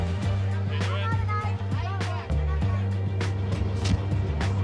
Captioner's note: people chatting